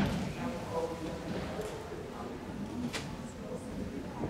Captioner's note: audience chatter